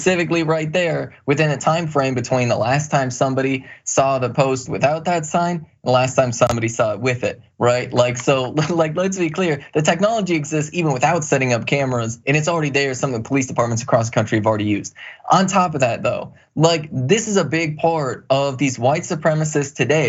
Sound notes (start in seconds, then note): 7.9 laugh